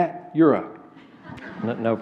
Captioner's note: laughter